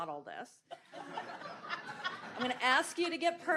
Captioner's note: audience laughs